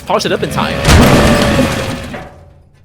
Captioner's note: Car hits Bloop